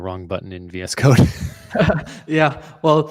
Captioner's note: laughter